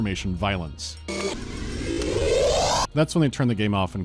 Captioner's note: kr-whoo-o-op